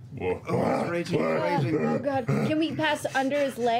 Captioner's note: angry panting